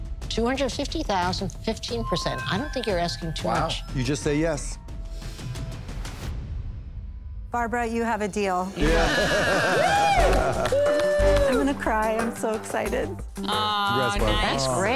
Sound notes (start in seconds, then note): 8.8 Greiner laughs